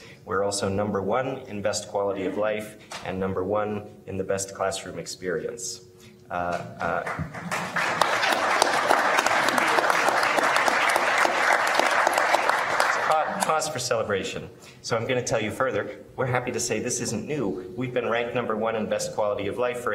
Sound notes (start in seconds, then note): 7.0 applause